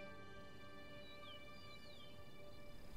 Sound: birdsong

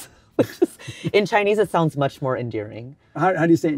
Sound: laughs

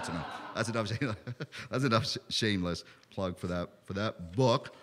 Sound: laughter

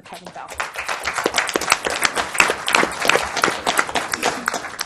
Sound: applause

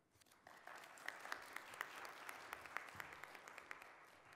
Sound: audience applauds

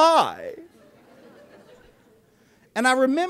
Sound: laughter

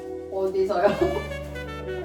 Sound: laughing

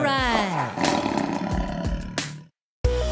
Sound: animal sound: tiger roar

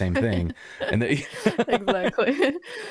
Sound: laughter

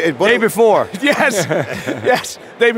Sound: laughs

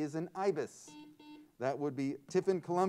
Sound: buzzer sounds

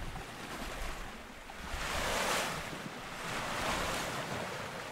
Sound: waves splash

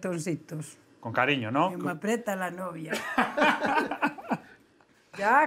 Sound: laughs

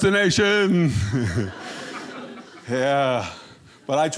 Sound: audience laughing

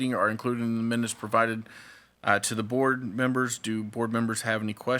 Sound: none

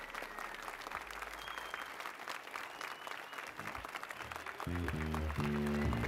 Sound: applause and cheers

